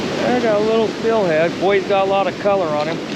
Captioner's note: water rushing